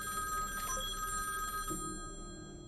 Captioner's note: phone ringing; message tone; phone ringing